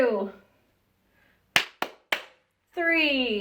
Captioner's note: woman clapping